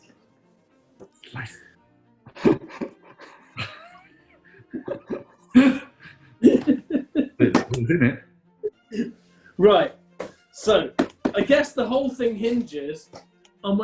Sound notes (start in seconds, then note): 1.0 whispers; 2.3 giggling